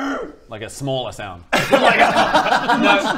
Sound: wishful laughs

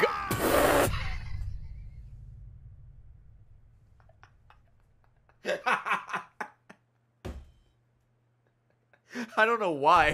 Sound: laughs

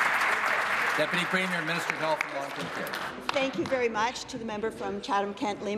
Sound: applause

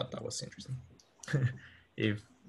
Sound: laughs

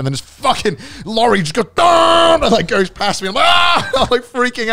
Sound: screaming

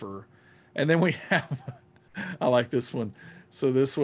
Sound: laughing

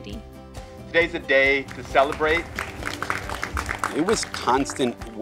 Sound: applause

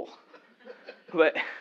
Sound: laugh

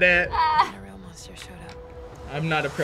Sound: laughs

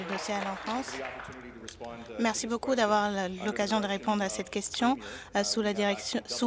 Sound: applause

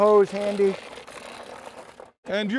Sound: grinder cranks

